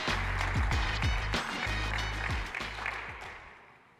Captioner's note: applause